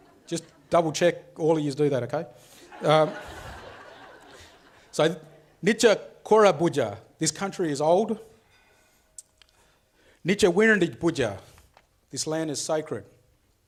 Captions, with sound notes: (audience laughs) Just double check all of yous do that, okay? (audience laughs) (speaks foreign language) This country is old. (speaks foreign language) This land is sacred.